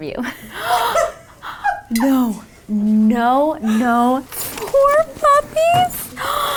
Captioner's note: gasps